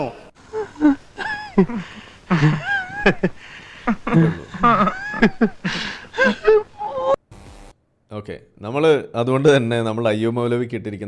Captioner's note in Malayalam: പൊട്ടിച്ചിരി